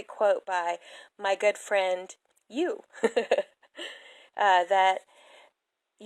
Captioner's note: laughs